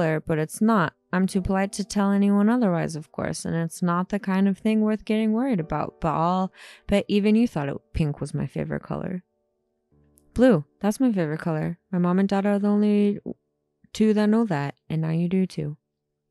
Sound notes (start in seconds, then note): none